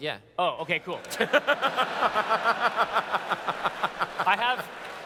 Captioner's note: laughter